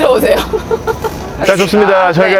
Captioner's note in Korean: 웃음